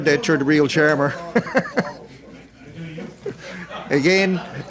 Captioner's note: laughter